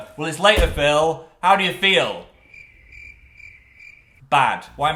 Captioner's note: crickets